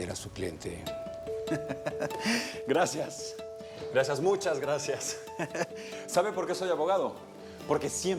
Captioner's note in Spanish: Risas